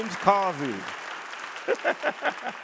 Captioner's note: audience applauding